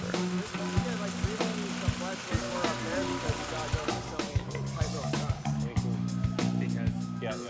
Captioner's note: muffled chatting; upbeat music